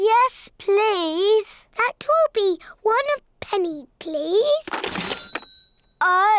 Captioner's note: dings